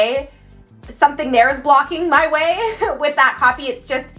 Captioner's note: laughing